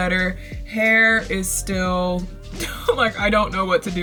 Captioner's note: laughs